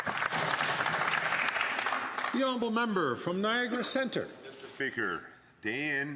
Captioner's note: some Applause